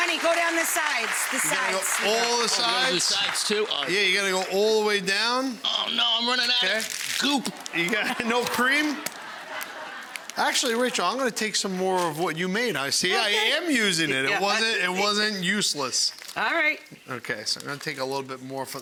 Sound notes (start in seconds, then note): 0.0 audience applauding; 7.3 audience laughing